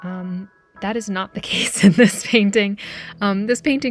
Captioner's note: laughs